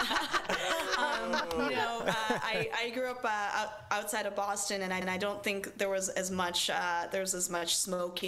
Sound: laughter

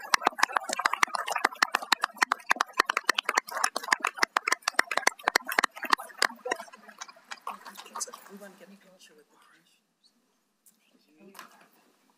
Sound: applause

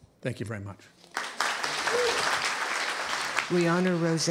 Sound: applause

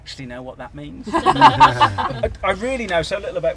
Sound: laughter

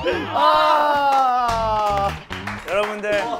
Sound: self-celebratory applause

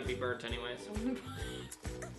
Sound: laughs

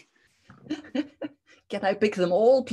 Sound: laughter

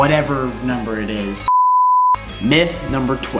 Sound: beep

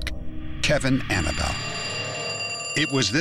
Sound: phone ringing

